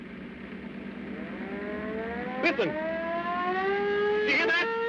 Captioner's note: siren